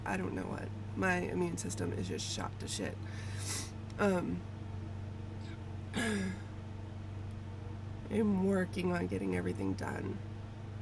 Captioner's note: sniffles